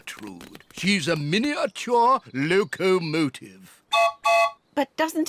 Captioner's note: toots whistle